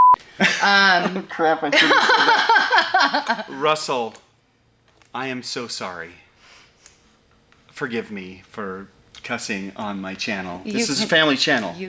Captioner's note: laughs